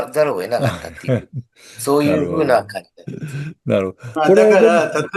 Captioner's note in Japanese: 笑い